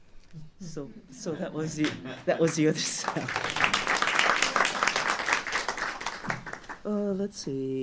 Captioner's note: applause